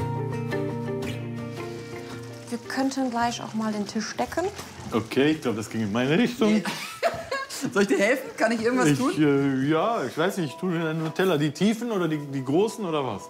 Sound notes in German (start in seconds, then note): 6.4 lacht